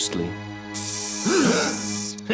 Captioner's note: hissing; both gasp; laughs